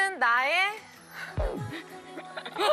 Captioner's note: laughing